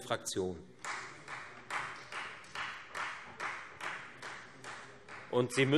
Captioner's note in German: Beifall Freie Demokraten